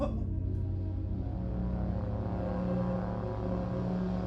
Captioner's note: person shouting; tense music